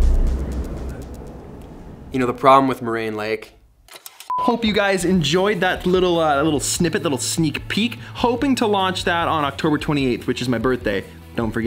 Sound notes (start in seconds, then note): 4.3 beep